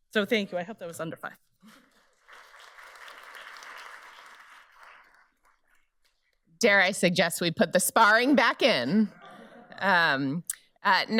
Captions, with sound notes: So thank you. I hope that was under five. (audience applauds) - Dare I suggest we put the sparring back in. (audience laughs)